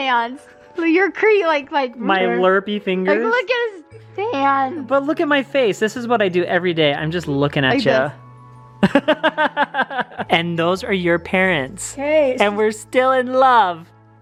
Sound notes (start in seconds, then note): 8.8 laughs